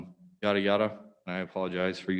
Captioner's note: none